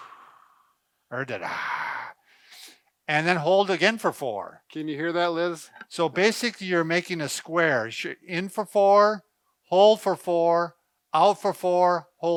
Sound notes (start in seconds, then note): 1.4 exhaling